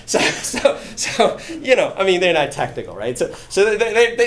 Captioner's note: laughing